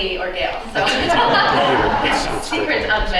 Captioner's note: laughter